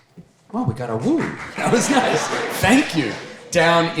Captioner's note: audience applauding